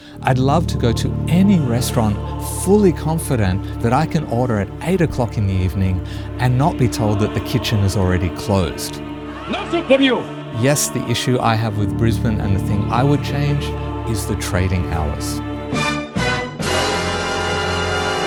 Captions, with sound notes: I'd love to go to any restaurant fully confident that I can order at eight o'clock in the evening and not be told that the kitchen is already closed. (speaking in foreign language) Yes, the issue I have with Brisbane and the thing I would change is the trading hours. (dramatic music)